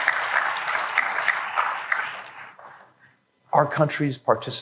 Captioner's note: applause